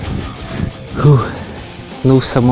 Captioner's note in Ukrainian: видихає